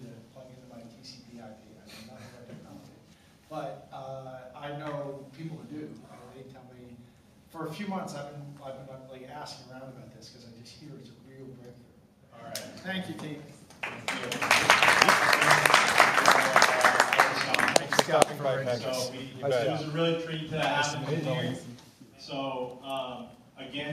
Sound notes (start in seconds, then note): 13.8 applause